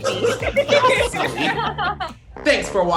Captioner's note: everyone laughs